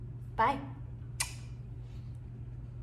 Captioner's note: kiss